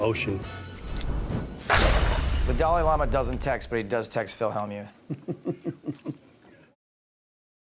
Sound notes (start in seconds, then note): 5.0 laughs